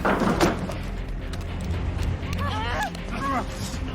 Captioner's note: grunting, groanining